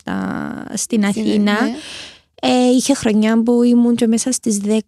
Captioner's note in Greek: χαχανίζει